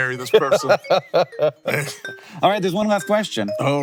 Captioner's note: laughing